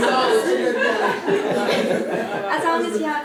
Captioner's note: laugh